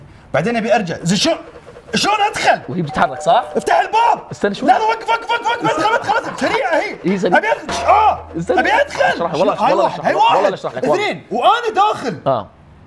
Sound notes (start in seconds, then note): 6.1 bang